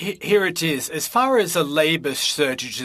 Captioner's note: speaking French